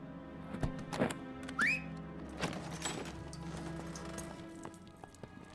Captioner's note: Jason whistling